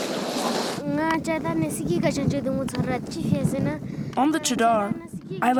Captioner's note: speaking foreign language